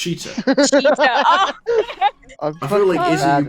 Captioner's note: laughter